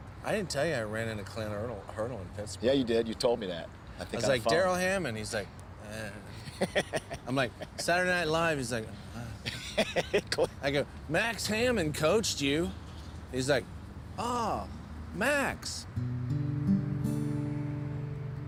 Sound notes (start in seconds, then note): 6.3 laughs